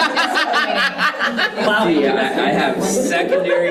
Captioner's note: participants laughing